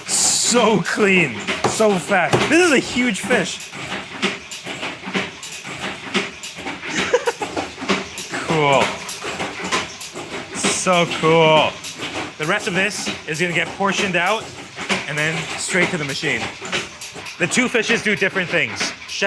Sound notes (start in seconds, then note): 4.3 machine whirring